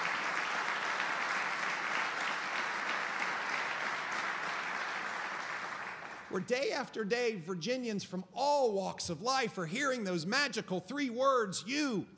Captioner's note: applause